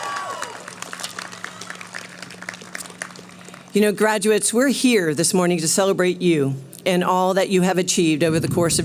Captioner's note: cheering